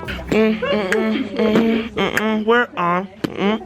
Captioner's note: beatboxing